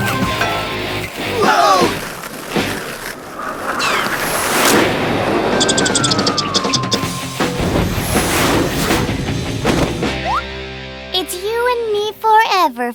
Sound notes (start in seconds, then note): 7.0 flames roar